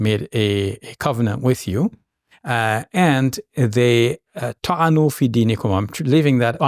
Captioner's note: speaking in foreign language